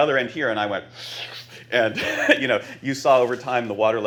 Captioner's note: slurps